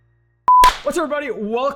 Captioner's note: screen beeps